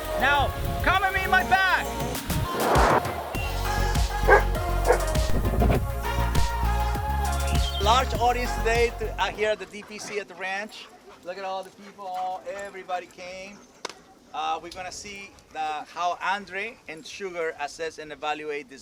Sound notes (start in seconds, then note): 0.2 upbeat music; 4.2 dogs barking